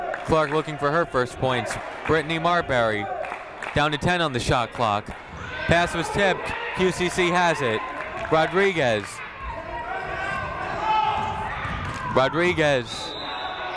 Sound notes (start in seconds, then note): 9.9 people shouting in the crowd; 13.0 whistle tweeting